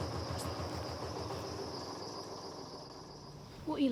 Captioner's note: barge engine stops